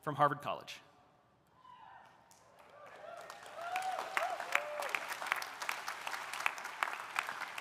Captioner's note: audience applauding; audience cheering